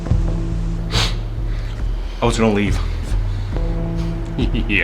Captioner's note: sniff; laughs